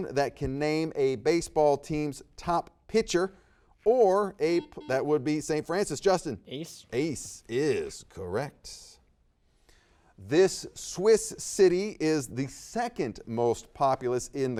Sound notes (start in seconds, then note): 4.5 buzzer beeps